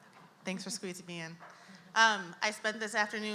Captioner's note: voiceover